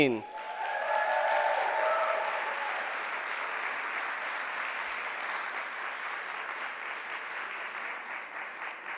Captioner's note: applause